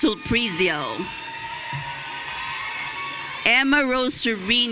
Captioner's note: audience cheering